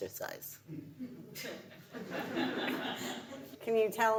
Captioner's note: audience laughs